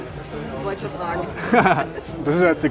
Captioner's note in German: lachen